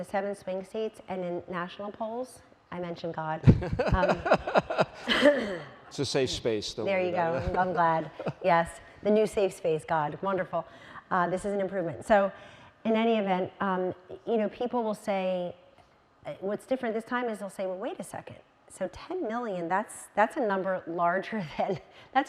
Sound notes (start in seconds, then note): 3.5 audience laughing